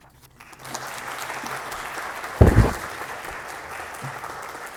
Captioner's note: applause